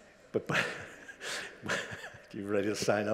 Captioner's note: chuckles